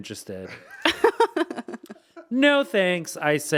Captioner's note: laughing